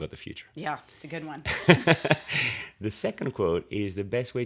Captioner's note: laughs